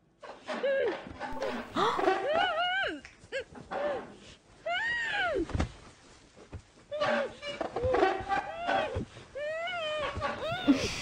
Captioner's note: moaning from pain and Chair screeching sound